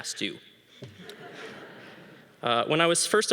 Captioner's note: audience laughing